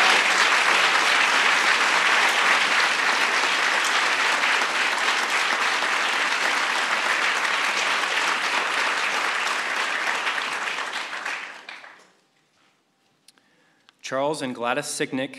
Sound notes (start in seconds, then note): 4.7 applause